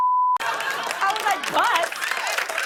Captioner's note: laughter, cheers, and applause